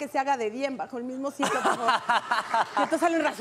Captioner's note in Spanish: Ríe